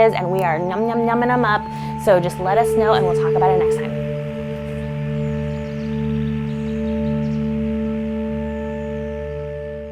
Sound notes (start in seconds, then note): 4.3 bids singing; 4.3 soft instrumental music